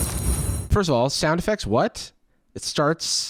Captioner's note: crash and ringing sound effects